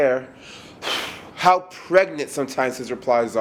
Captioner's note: deeply sighing